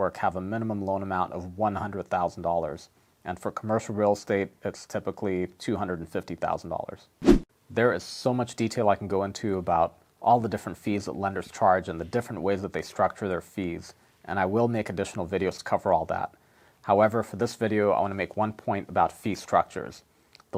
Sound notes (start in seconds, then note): 7.2 air whooshes